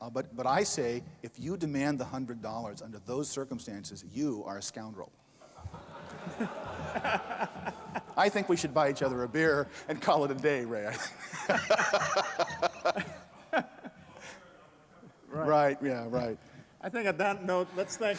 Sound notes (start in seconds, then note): 10.8 laughter